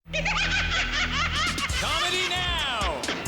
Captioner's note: laughing